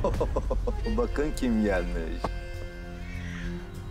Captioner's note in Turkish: Gülerek